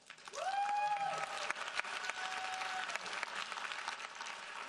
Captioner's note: audience applauding